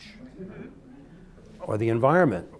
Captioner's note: light chatter